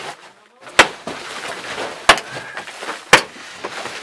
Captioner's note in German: kräftiges Schlagen